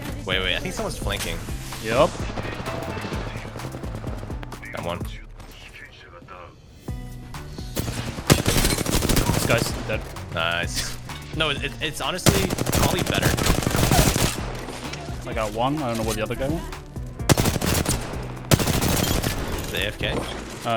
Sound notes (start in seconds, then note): 11.9 interrupted by gunshots